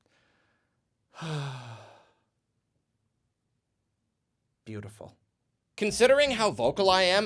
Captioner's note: sigh